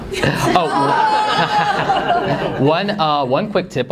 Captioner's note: laughter